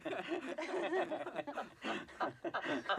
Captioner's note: all laughing